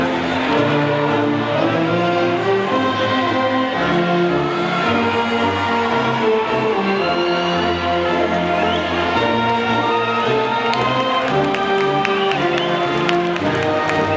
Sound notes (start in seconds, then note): 7.3 audience cheers and whistles; 11.0 audience applauds